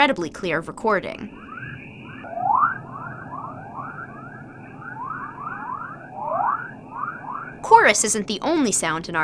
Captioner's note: electronic chirping noises